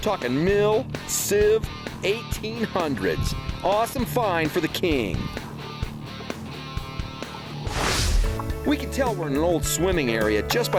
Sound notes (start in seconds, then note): 7.6 swooshing